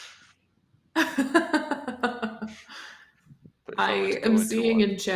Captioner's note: laughter